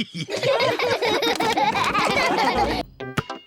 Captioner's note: all laughing